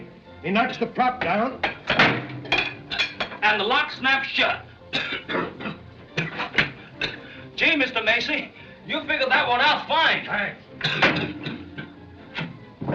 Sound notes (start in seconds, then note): 4.9 coughing; 10.8 coughing Continues